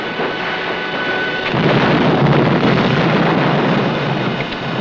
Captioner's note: explosion blasting